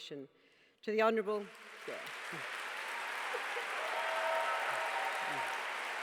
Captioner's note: applause